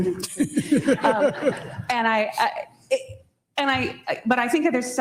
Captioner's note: audience laughing